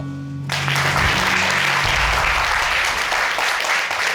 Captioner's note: audience applaud